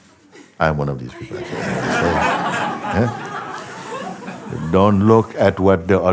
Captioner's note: laughter